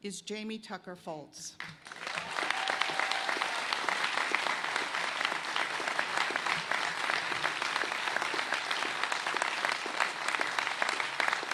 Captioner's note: cheers and applause